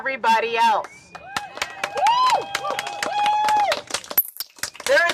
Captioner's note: cheering and applause